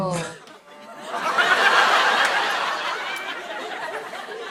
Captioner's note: laughter